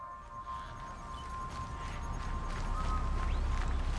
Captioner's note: footsteps